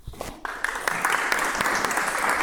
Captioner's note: applause